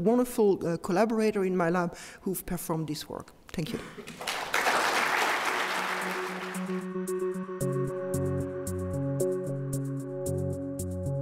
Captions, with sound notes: the wonderful collaborator in my lab who've performed this work. Thank you. (applause) (techno music)